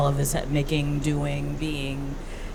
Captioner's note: none